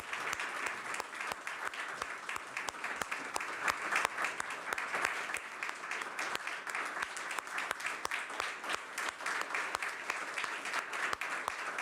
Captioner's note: applause